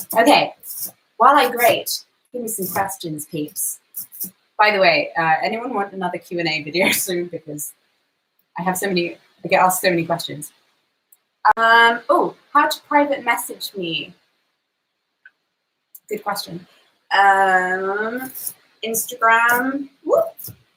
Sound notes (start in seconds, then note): none